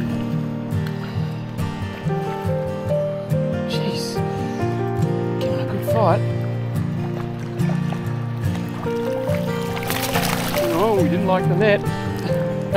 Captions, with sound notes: [Wind] [Wind] [Wind] [Wind] [Wind] Oi!